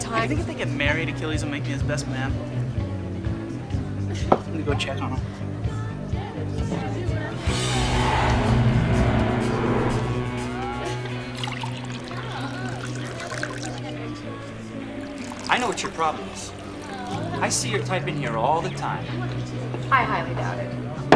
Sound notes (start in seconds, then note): 11.1 liquid pouring into glass